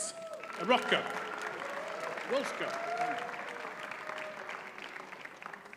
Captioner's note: audience cheers and applauds